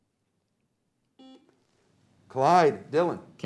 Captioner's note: beep